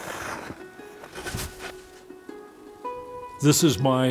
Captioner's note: gentle music; shovel scrapes